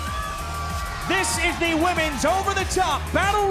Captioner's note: cheers and applause